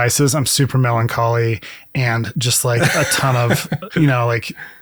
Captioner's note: laughs